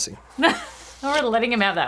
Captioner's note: laughing